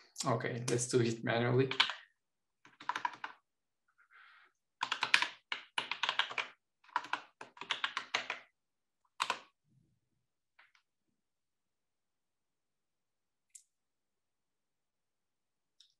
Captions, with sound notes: Okay, let's do it manually. (keyboard clattering)